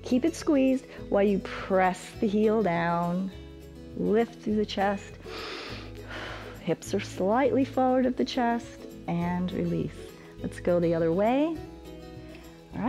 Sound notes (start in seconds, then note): 5.2 inhales and exhales